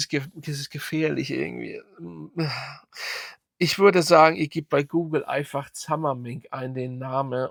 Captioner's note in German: japst